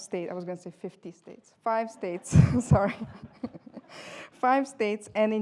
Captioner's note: laughter